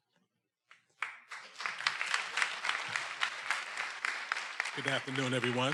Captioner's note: everyone applauding